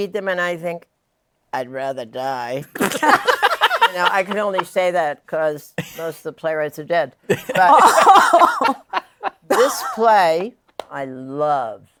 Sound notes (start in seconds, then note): 2.7 laughter; 7.2 laughter